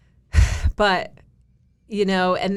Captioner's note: exhales